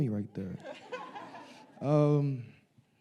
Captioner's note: audience laughing